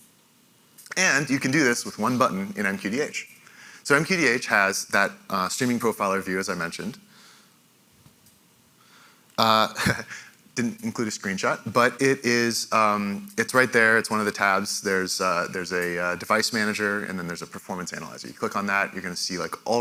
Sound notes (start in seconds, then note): 9.5 laughs